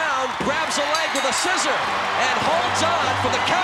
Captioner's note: bell ringing